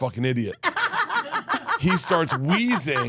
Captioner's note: Steph laughs